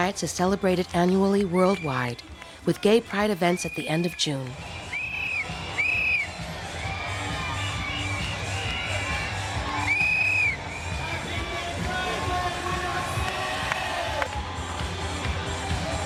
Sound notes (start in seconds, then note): 5.3 people cheering; 5.3 upbeat music